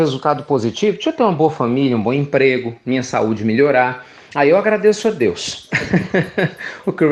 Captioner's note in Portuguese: Risos